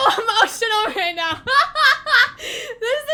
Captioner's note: stress laughter